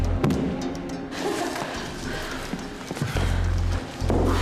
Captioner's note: chuckles